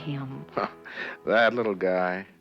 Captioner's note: scoffs